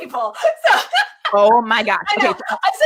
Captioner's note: laughs